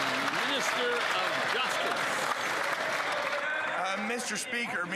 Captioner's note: some Applause